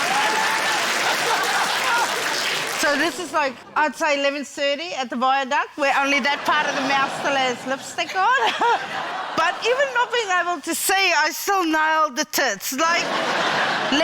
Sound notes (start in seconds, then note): 0.0 cheering, applause, laughter; 8.3 chuckles; 12.8 laughter